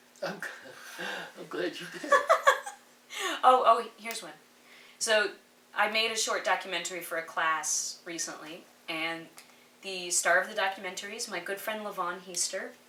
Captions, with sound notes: >> Oh, I'm glad you did. >> [Laughs]. Oh, here's one. So I made a short documentary for a class recently. And the start of the documentary is my good friend Lavaun Heaster.